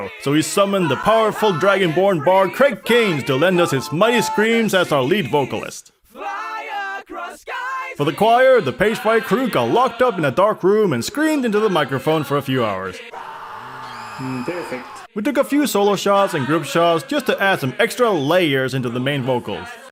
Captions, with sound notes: So he summoned the powerful dragonborn bard Craig Cairns to lend us his mighty screams as our lead vocalist. For the choir, the Pagefire crew got locked up in a dark room and screamed into the microphone for a few hours. [Wizards scream in unison] "perfect" We took a few solo shots and group shots just to add some extra layers into the main vocals.